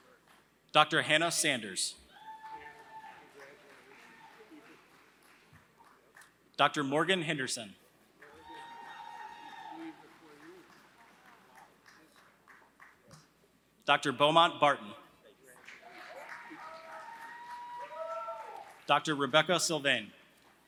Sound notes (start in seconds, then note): 0.0 applause; 7.8 applause